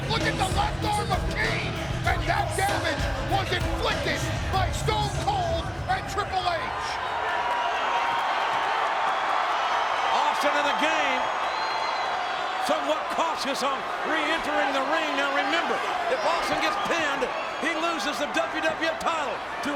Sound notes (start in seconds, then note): 6.8 audience cheers